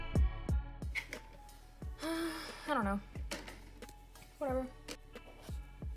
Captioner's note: sighs disappointedly